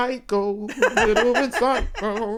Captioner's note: laughing